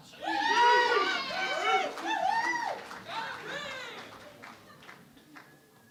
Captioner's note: cheering and Applause